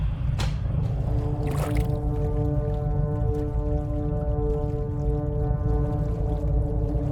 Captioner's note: dramatic, foreboding music; door clicks; dramatic, foreboding music; water burbling